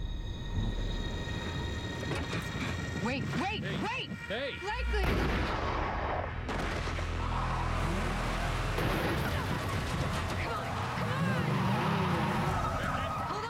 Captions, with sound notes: THEY'RE HERE. WAIT. WAIT! WAIT! WAIT! HEY! BLAKELY! (gunshot) OHH! (tires squealing) OHH! COME ON. COME ON! (squealing continues)